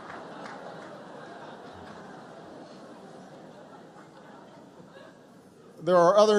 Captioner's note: laughter